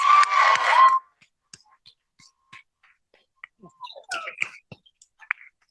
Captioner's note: cheering